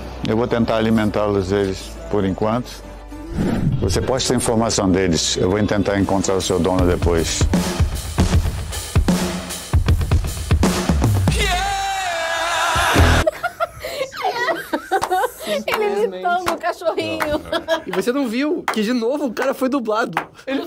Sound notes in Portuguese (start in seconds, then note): 13.1 risadas